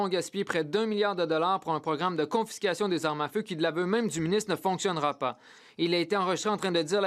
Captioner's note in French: voix de l'interprète